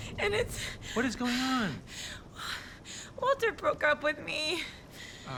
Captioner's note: breaths heavily